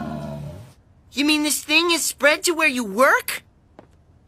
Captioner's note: groaning